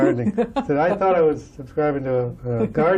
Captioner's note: laughter